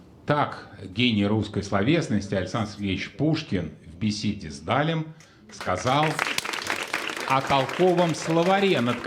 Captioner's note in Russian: аплодисменты